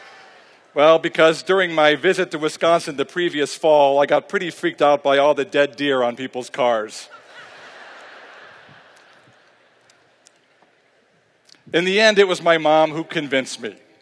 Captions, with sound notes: Well, because during my visit to Wisconsin the previous fall, I got pretty freaked out by all the dead deer on people's cars. (Laughter) In the end, it was my mom who convinced me.